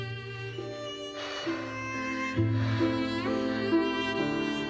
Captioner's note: heavy breathing